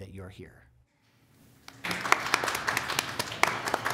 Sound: applause

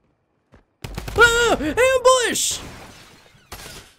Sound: screams

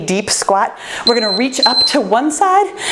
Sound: timer beeping

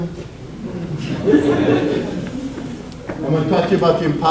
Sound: audience laughs

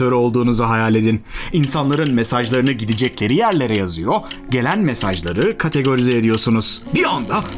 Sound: beep beep beep etc

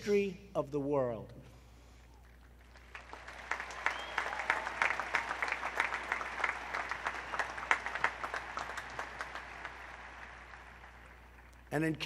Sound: applause

